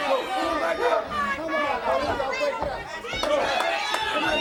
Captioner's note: crowd chatter